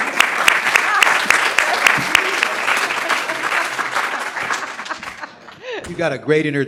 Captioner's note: applause